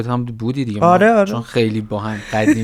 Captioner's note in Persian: خنده